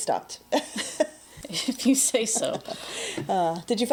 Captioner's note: laughs